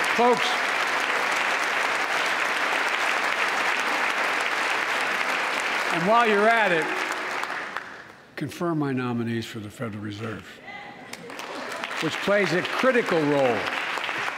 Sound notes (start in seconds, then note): 2.2 applause